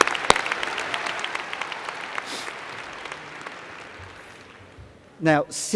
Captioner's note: applause